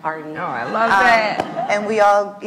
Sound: laughs

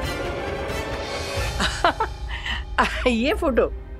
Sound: laughing

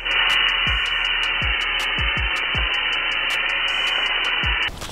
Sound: buzz of spray can

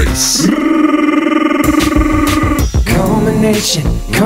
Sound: roaaarrrrr!

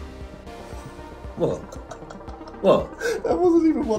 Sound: host laughing

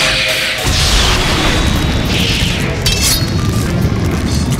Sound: Marceline yells

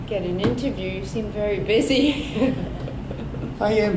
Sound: laughs

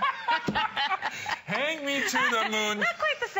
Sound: laughter

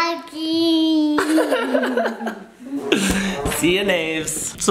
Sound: dad giggles

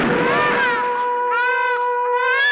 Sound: thunder rumbling; baby crying

